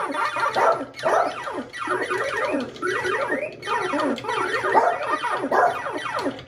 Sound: arcade game sounds; Lemonade barking

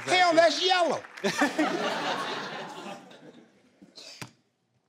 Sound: laughing

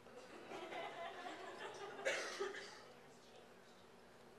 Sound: laughter

